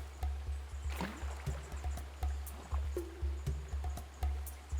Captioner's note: water splashes